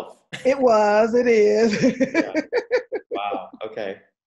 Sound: laughing

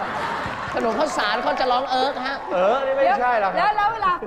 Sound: laugh

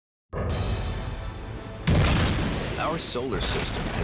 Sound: dramatic music; explosions

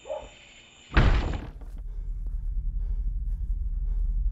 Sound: door slams

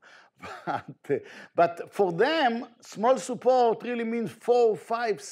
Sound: chuckles

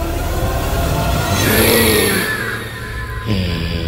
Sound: ghost screaming

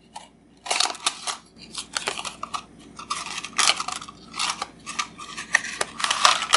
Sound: unboxing sounds

